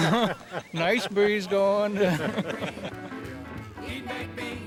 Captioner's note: laughs